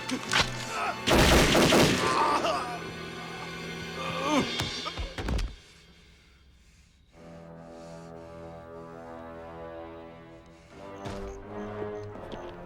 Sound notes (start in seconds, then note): 1.0 gunshots blasting; 4.0 Knox groans; 7.0 ominous music; 7.4 Dalton breathes heavily